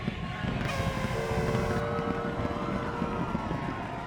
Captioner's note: whistle blows